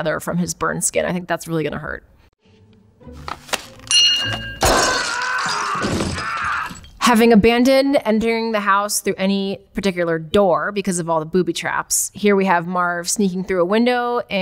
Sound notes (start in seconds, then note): 3.8 bell dings; 4.9 screams